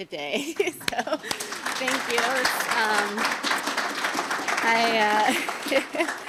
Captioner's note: audience applauding